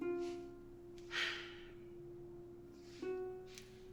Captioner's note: sighing